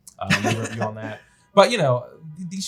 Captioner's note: laughs